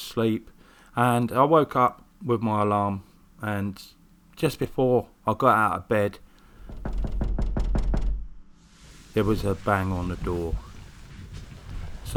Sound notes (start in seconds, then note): 6.6 knock Knock Knock Knock Knock